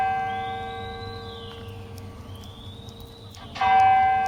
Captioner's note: whistle blaring